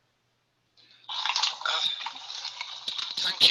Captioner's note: radio playing